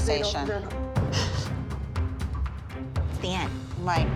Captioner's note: crying